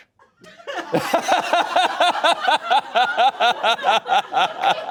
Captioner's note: audience laughing